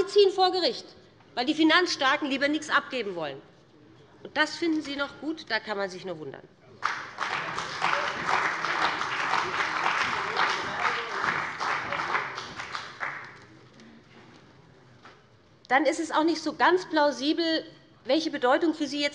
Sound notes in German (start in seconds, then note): 6.8 Beifall bei dem BÜNDNIS 90/DIE GRÜNEN und der CDU